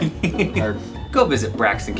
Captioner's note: team chuckling